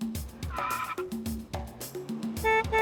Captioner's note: tyres screech; honks horn